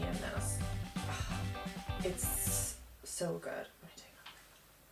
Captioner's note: sigh